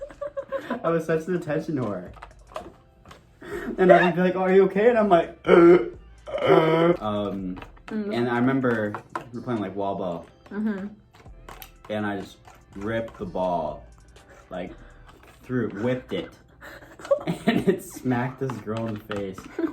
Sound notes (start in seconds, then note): 3.4 laughs; 6.2 gasping for air